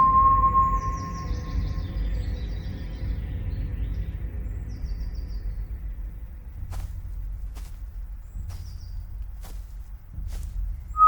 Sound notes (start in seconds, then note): 6.6 footsteps thumping